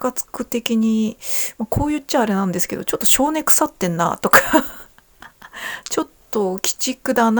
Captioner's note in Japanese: 笑い